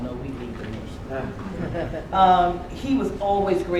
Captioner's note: laughter